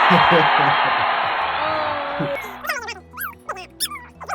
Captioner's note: a crowd cheers; father laughs